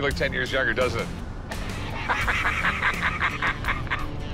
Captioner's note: laughter